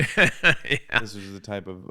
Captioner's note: laughing